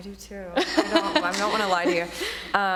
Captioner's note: laughing